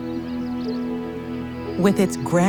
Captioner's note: birds chirping; soft music